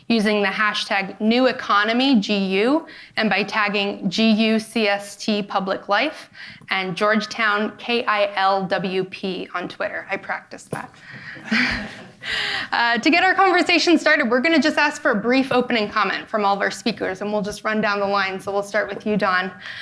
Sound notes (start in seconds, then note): 11.4 laughs; 11.4 audience laughing